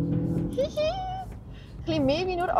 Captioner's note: hihi!